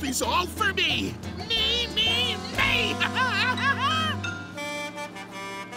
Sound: evil laugh

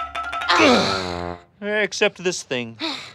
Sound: grunting

